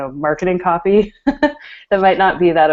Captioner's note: laughs